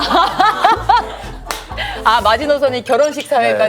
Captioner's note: chuckles